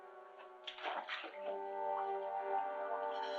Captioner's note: water splashing